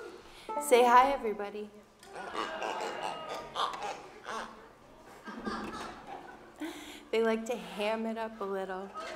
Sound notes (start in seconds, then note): 5.1 toy pigs grunting